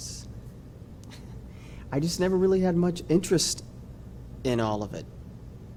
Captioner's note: chuckles